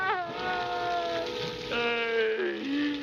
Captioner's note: sobbing